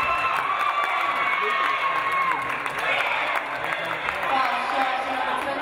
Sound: referee blows whistle; audience cheering

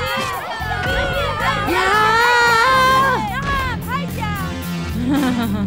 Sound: thuds

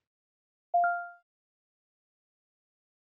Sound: ping

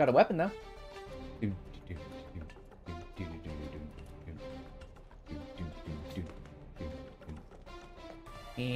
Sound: humming

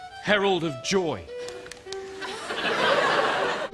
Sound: pat pat; laughter

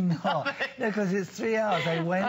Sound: laughter

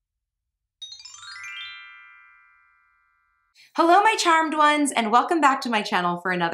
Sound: twinkle

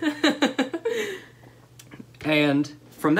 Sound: laughter

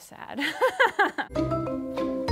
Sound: laughs; upbeat calm music

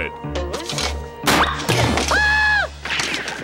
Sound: screaming

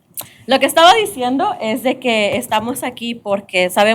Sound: speaking spanish

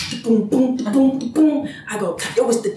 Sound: beatboxing

